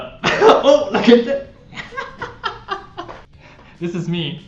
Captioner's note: man laughing